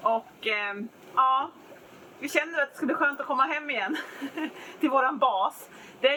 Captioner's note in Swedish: skratt